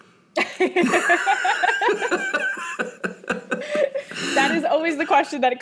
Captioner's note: both laughing